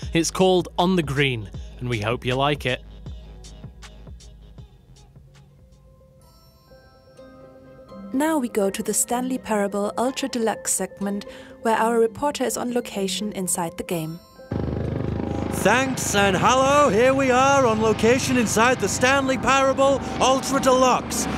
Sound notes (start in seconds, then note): 14.5 helicopter sounds; 15.3 shouting